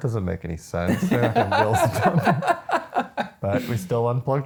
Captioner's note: laughing